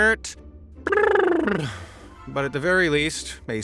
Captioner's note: blows a raspberry